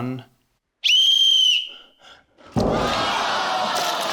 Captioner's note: whistle trills; audience exclaims